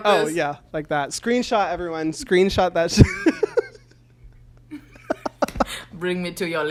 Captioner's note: laughs